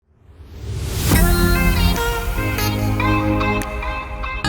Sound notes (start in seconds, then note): 0.3 whooshing; 1.1 upbeat music